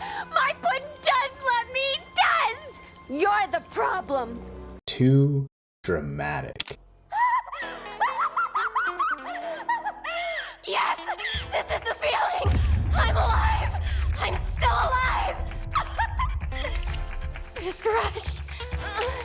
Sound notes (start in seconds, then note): 7.2 laughter